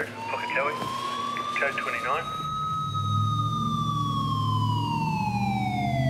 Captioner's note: ambulance siren